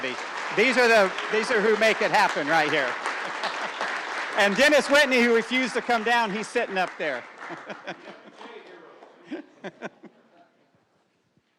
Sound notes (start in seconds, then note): 3.9 applause